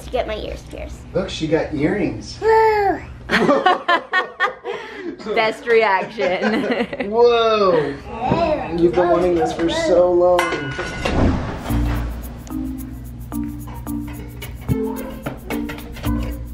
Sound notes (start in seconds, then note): 3.5 laughing; 11.6 playful music